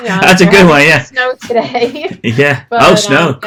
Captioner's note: laughs